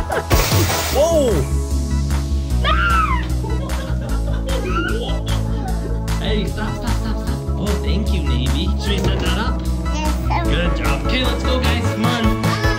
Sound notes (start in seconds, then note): 0.1 cart crashes; 2.6 squeals; 3.4 giggles